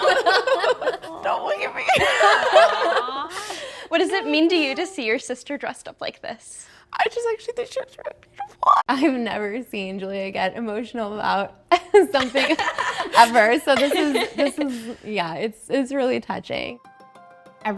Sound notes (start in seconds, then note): 0.0 group laughing; 8.3 choking up